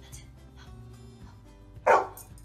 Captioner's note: barking